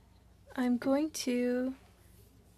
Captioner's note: speaking French